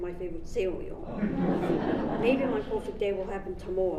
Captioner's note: audience laughs